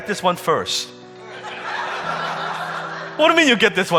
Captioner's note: audience laughing